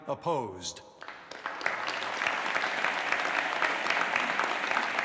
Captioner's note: group applauds